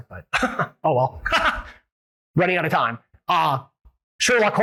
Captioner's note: laughs